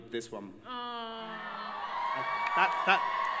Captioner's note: crowd cheers